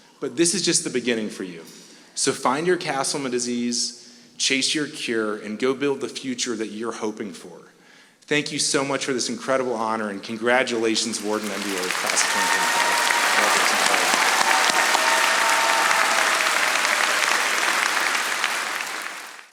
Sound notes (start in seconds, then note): 13.3 audience applauding